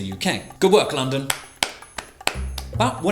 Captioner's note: clapping